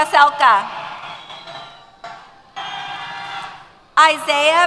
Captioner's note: cheers